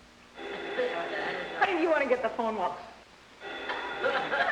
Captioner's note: phone rings